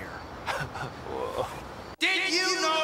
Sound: chuckles

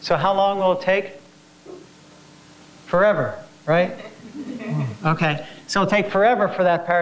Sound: laugh

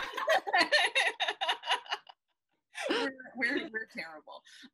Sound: laughing

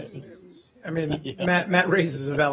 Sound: laughter

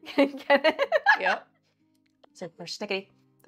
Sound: laughs hysterically

